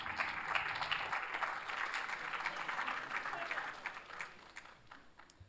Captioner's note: applause